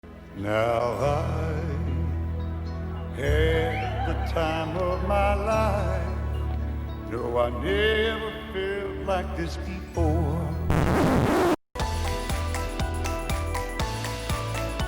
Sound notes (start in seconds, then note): 10.7 record scratches; 11.7 upbeat music